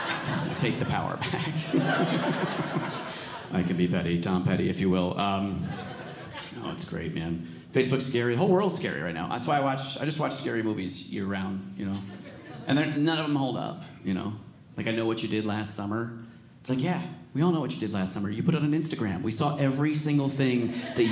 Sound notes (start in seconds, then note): 1.7 audience laughing